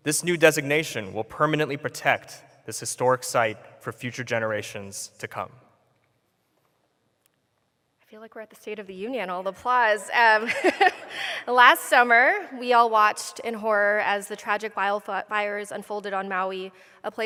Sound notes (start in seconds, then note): 10.0 laughs; 10.4 laughter